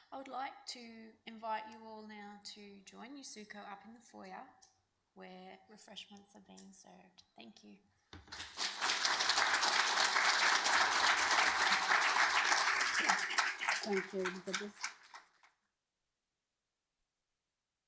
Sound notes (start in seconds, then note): 8.2 audience applauding